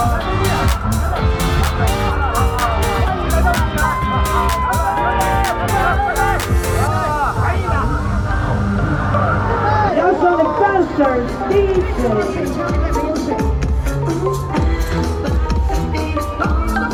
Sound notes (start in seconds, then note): 4.2 cheering; 12.5 upbeat music; 15.3 cheering